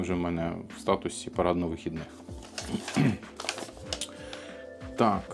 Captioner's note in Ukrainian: прочищення горла